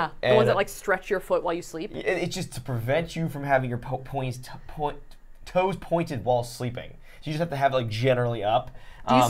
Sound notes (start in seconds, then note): 3.9 stammering